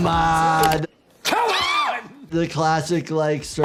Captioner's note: yelling